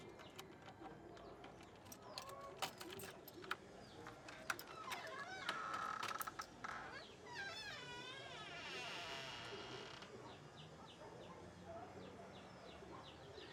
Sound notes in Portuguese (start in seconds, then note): 1.0 canto dos pássaros; 5.7 rangido da porta; 11.8 canto dos pássaros